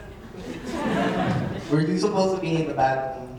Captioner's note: audience laughing